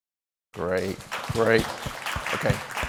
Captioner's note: applause